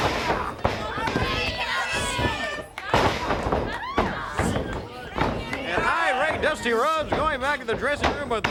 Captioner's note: crowd chatter